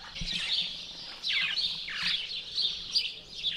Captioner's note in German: Vogelgezwitscher